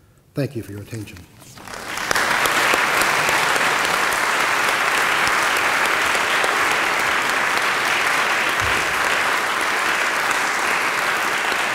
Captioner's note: applause